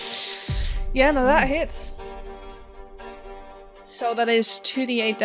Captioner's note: sharp inhale